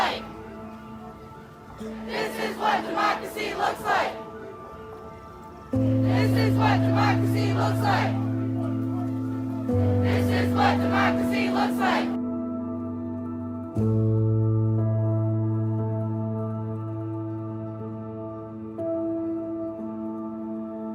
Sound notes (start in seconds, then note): 0.2 ghostly Voice; 4.1 ghostly Voice; 8.1 ghostly Voice; 12.4 somber music